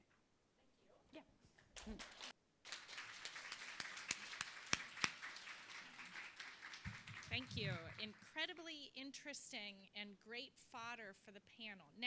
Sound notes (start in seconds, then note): 2.6 applause